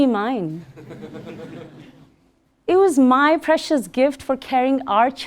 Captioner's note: laugh